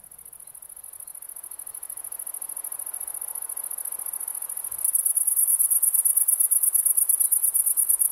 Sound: grasshoppers singing. The sound of wind in dry grass

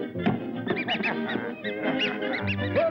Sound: laughs

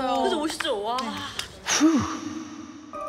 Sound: humph

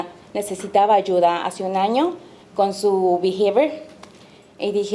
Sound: speaking Spanish

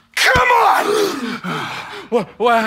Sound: grunting; gasps

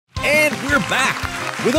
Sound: applause and music playing in the background

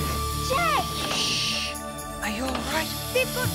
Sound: shushing

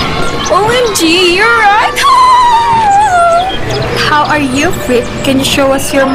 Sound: laughing

